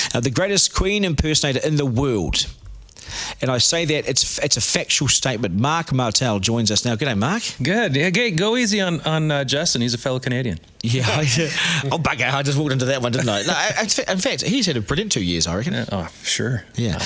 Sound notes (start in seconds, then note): 10.9 laughs